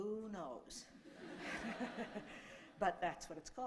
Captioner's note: laughter